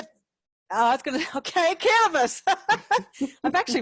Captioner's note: laughing; chuckles